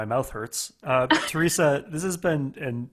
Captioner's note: laughing